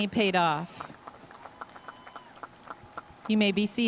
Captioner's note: audience cheering and applauding